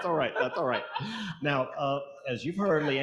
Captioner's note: audience laughing